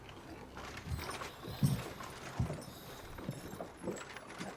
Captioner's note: carts rattling